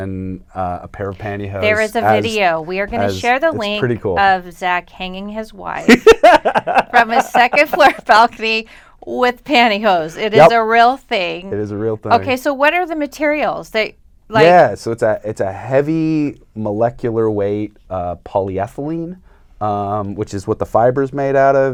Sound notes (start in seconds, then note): 5.8 laughs